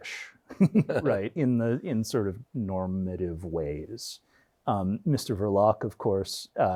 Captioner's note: chuckles